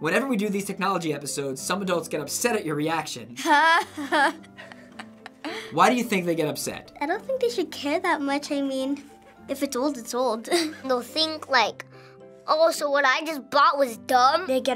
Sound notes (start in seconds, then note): 3.4 laughs